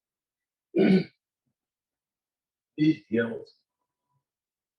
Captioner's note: clears throat